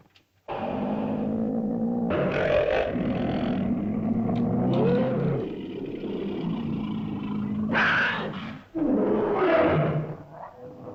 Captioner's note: dinosaur hisses and growls; dinosaurs growl & snarl